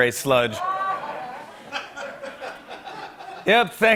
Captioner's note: laughter